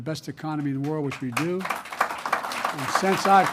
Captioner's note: applause